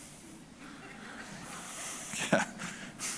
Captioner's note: audience laughter